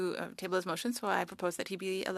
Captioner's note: speaking French